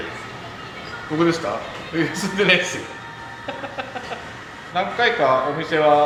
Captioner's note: laughs